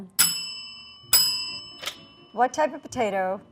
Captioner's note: bell ringing